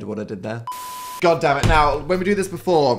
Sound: beep

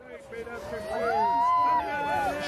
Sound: crowd Sounds

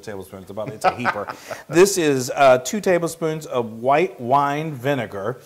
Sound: laugh

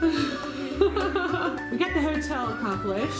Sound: laughing

